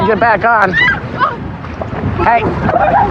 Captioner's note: scrcreamimingng